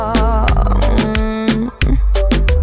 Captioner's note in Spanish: moan